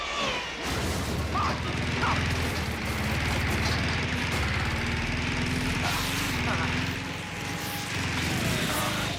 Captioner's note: lawnmower noises